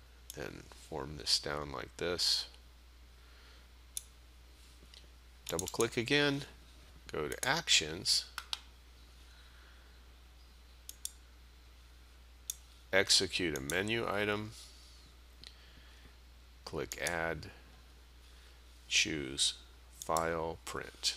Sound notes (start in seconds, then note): 8.1 sound of mouse clicking